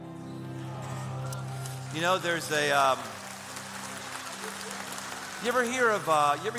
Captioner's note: applause